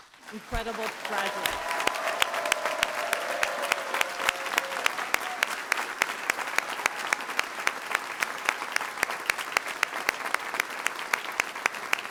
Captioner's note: applause